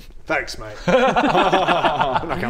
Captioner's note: obedient laughter